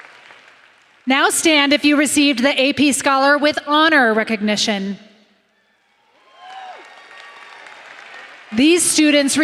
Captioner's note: applause